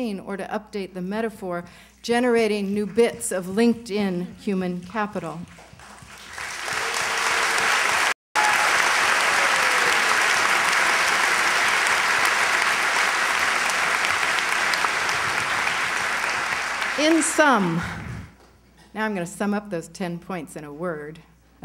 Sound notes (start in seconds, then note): 5.9 applause